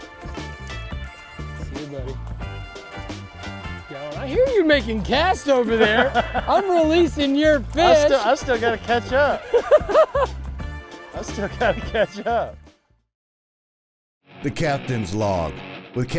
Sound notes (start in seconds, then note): 5.5 laughing; 9.3 laughing; 14.3 rock music